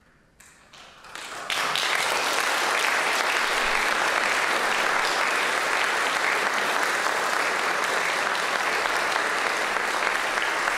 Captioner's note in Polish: aplauz